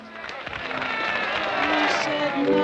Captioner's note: applause; piano plays